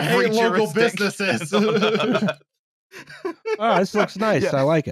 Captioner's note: laughter